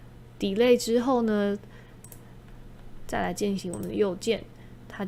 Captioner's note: mouse Right Click